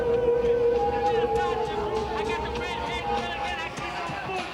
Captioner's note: eerie hum